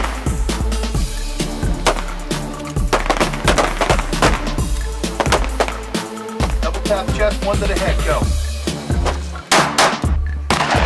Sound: gun shots

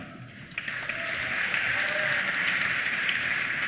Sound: applause; cheers

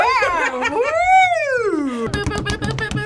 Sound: laughs

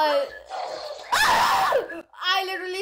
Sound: screams

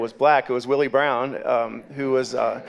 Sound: audience murmuring and clapping

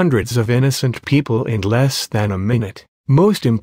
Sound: none

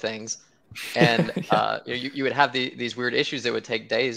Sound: chuckles

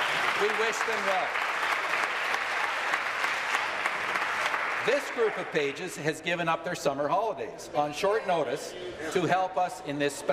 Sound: applause

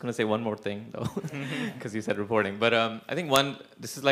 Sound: laugh

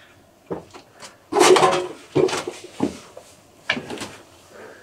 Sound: debris clangs

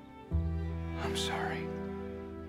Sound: whispers

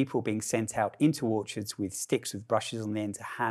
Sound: murmurs

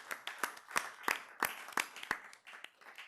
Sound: applause

